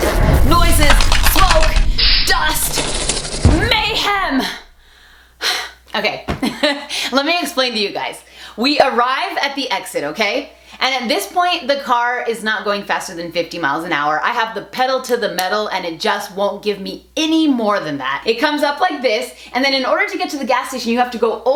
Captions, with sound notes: Noises, smoke, dust, mayhem! (sighs) Okay (laughs) let me explain to you guys, we arrive at the exit, okay? And at this point the car is not going faster than 50 miles an hour. I have the pedal to the metal, and it just won't give me any more than that. It comes up like this and then in order to get to the gas station, you have to go